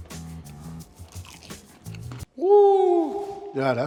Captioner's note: egg roll crunching